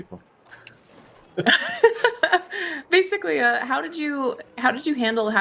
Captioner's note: laughs